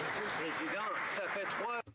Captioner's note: some Applause